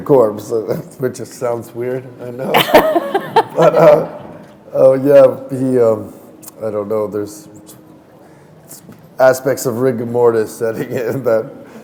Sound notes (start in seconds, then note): 2.5 laughter